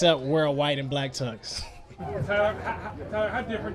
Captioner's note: Tyler laughs